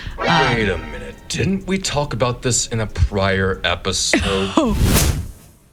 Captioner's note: giggles